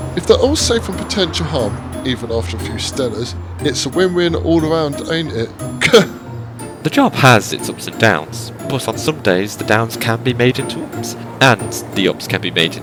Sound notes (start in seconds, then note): 5.8 laughs